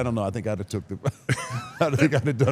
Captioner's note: Mark and Paul laughing